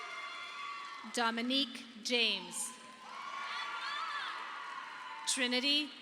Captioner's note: audience applauding